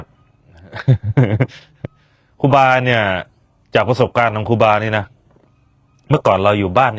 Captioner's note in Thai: เสียงหัวเราะ